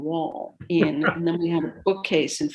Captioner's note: interviewer laughs lightly